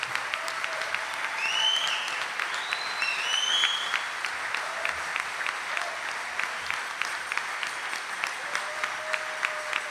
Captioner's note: audience cheering and applauding